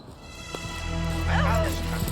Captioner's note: suspenseful orchestral music; shrieks